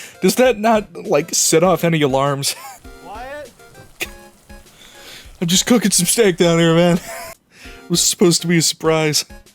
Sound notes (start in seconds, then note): 7.0 wheeze